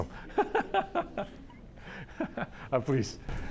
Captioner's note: laughs